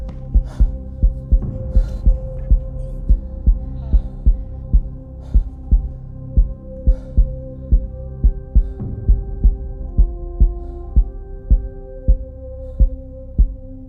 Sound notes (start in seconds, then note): 0.3 slower heartbeat; 3.9 ominous music; 9.5 slower and arithmic heartbeat